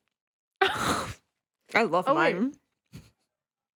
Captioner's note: laughs